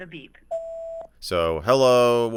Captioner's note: beep sound